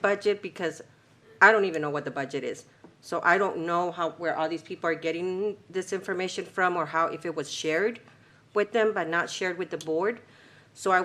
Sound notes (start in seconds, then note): none